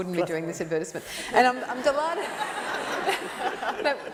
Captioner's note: laughter